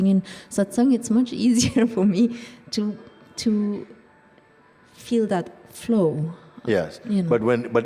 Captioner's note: chuckles